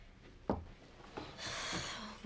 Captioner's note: sighs